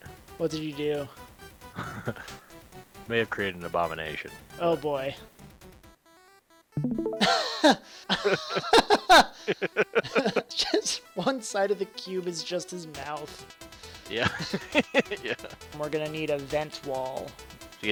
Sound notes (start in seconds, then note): 7.2 both Laugh; 14.2 laughs